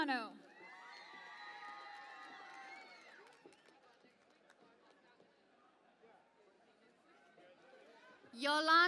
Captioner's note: cheering and Applause